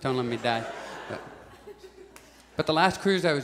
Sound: audience chuckles

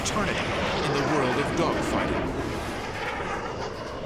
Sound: jet engine noises

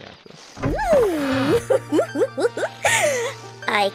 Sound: SPRYTE laughs

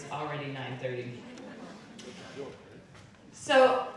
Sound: audience laughing

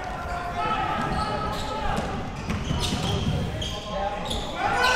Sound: crowd cheering

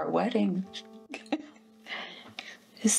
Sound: Kim laughs

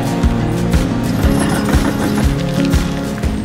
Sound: heavy machinery runs

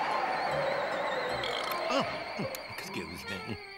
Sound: wind gusting; bird belches

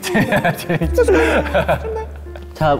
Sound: laughing

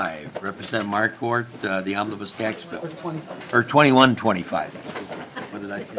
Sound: laughing

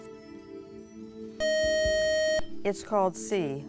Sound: buzzer

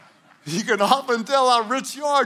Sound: congregation laughing; laughs

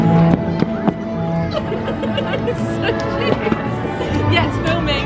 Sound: laughs

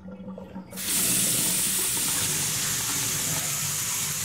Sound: faucet running

